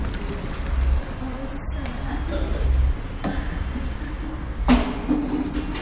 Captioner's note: indistinct chatter